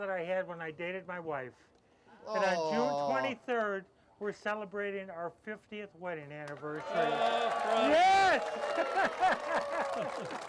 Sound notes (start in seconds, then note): 6.8 audience cheering; 8.4 laughs